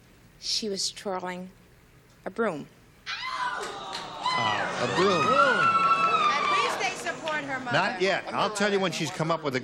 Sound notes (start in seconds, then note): 5.3 groaning; 7.5 howling